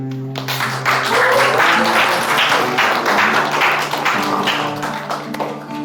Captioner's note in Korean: 박수 소리